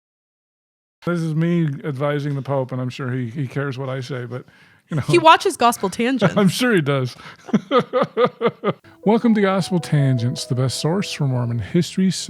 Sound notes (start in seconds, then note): 6.5 chuckling